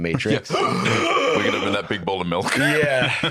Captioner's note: gasps